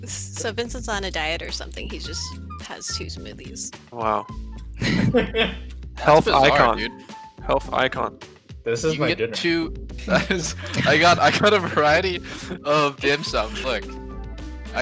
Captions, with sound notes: - So Vincent's on a diet or something. He's just has two smoothies. - Wow. (laughing) Health icon. - It's just odd, dude. - Health icon. - This is my dinner. - You can get two-- (chuckles) I got a variety of dim sum, look.